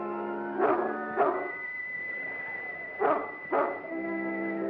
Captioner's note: gate opens; dog barks